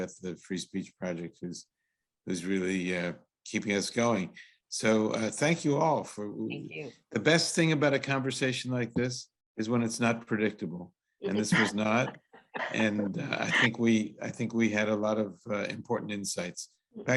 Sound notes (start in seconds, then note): 11.3 panelists laugh